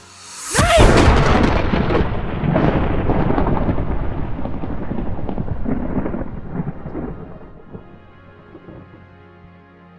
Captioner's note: thunder